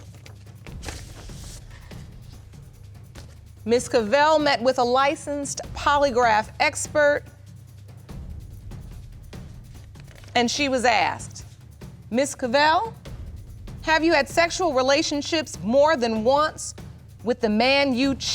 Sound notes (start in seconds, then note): none